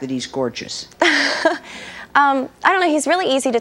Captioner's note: laughs